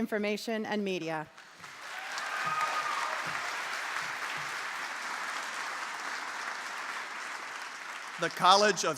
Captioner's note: applause